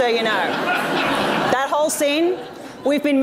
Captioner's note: audience laughs